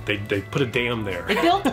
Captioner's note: laughs